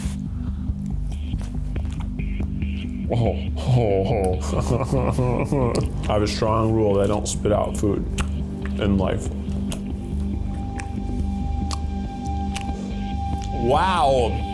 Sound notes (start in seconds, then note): 0.2 slow music; 3.1 humming; 4.4 laughing